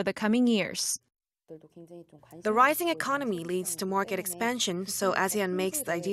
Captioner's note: Korean